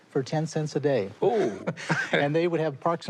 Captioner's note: laughter